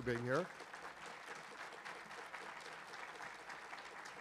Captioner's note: audience applauding